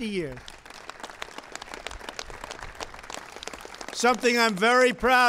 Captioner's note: applause